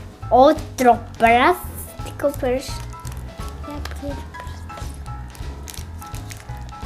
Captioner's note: whispers